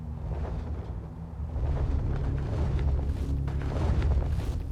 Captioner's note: feathers flap